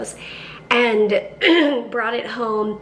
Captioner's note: clears throat